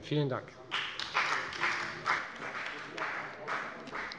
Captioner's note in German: Beifall bei der FDP